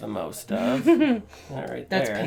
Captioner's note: giggles